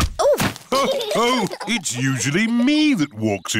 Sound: others laugh

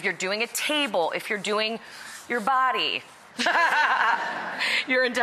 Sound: laughter

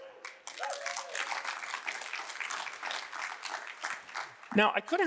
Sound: audience applauding

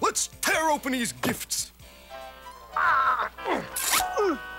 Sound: both grunting

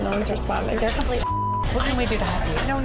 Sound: beep

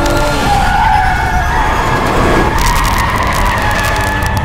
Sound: tires squealing

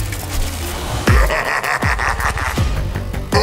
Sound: Calus Laugh

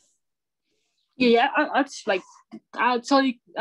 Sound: calm Voice

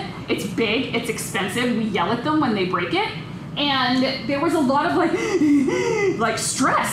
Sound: dramatic heaving

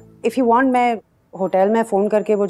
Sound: none

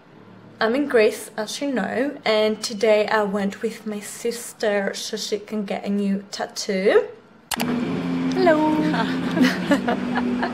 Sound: laughter

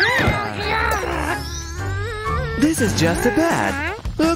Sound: moaning

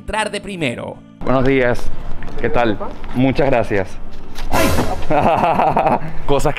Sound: laughs

